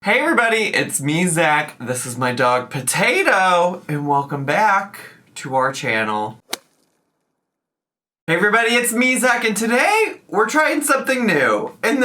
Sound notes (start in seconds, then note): 6.4 golf club swings